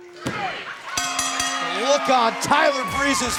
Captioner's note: bell ringing